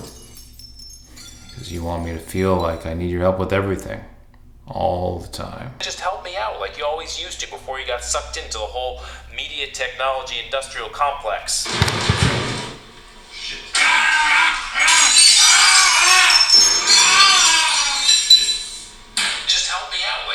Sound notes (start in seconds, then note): 11.7 sound montage from phone: exploding soup & coffee, manny screaming in pain